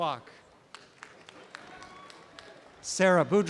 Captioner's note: applause and cheering